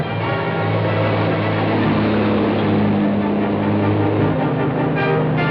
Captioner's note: truck accelerates